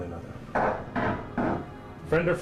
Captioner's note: knock, Knock, Knock